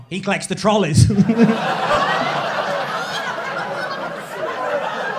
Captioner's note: crowd laughing